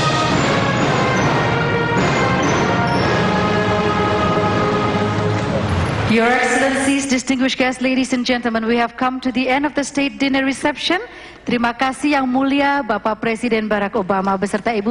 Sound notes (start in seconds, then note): 11.5 non-english speech